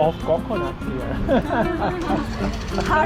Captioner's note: laugh